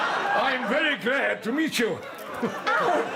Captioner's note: butch voice